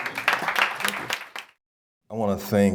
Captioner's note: applause